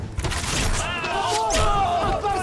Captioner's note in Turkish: Ok atma sesleri